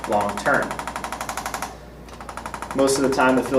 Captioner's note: ArthroStim rattles